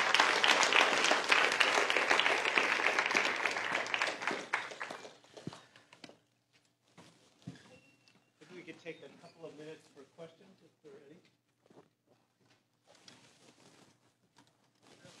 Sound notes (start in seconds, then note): 0.0 applause